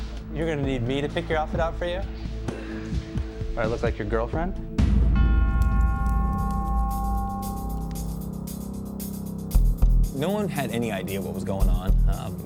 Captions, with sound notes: - You're gonna need me to pick your outfit out for you? Do I look like your girlfriend? (bell clanging) (soft expectant music) - No one had any idea what was going on.